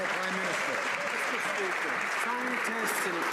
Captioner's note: some Applause